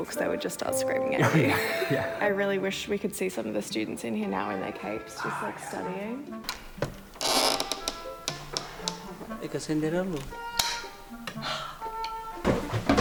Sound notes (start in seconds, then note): 6.4 door creaking; 10.1 snaps; 11.3 gasps